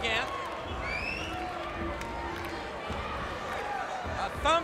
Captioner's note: crowd cheering